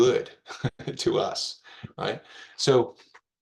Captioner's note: laughing